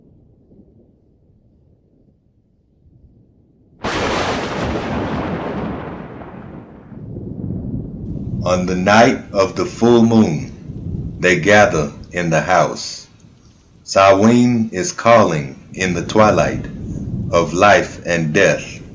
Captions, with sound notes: (thunder rumble) (lightning crack) (rain drops) on the night of the full moon they gather in the house Samhaim is calling in the twilight of life and death